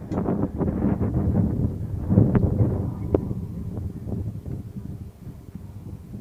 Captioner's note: wind sounds